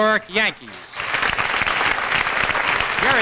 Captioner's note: audience applauding